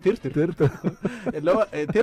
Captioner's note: laughter